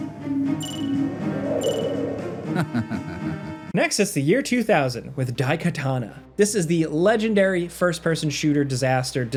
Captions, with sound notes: (timer dinging) Next is the year 2000 with "Daikatana." This is the legendary first-person shooter disaster